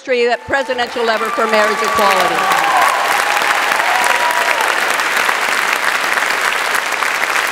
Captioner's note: audience applauds